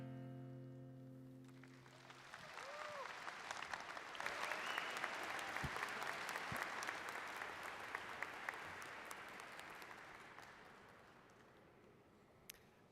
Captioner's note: applause